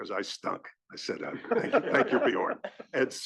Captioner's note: laugh